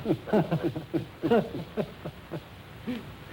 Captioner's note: both laughing